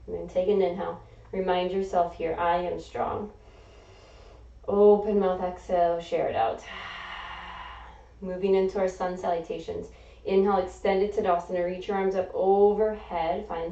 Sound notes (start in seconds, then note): 3.4 inhaling; 6.6 exhaling